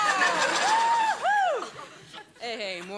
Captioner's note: audience laughing; Morgan cheers